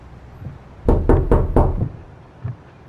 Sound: knocking

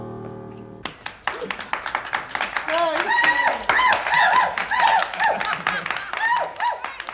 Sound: audience applauding; audience cheering

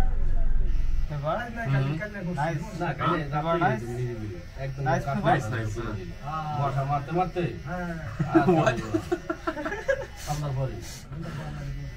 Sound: people talking randomly

